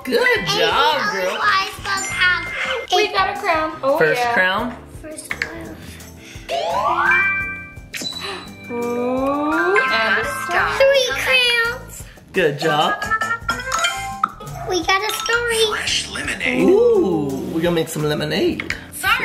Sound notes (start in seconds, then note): 7.0 star tinkling; 8.4 gasping; 13.3 playful music